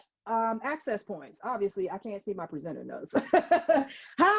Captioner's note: laughs